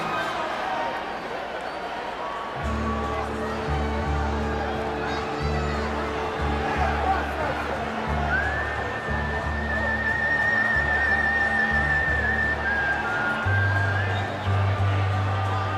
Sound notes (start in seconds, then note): 4.5 crowd chatter